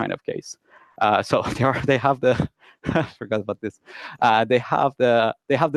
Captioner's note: laughs loudly